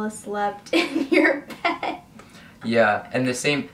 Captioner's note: laughs